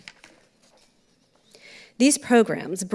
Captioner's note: papers rustling